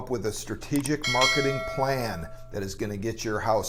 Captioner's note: bell dings